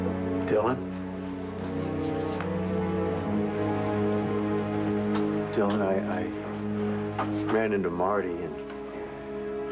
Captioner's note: knock on door